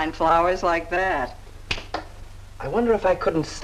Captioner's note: Johnny clicks his fingers